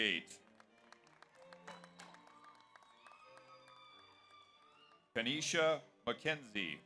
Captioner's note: audience applauds; audience cheers